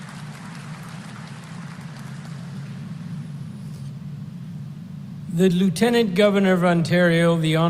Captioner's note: applause